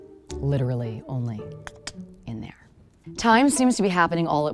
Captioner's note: clicks tongue